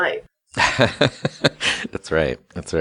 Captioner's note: laughs